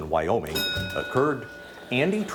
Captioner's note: bell dings